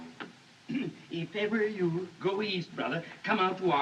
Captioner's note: clears Throat